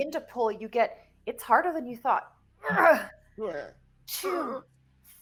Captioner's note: mimics grunting